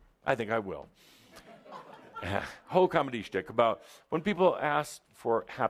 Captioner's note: some laughter